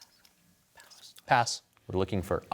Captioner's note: whispers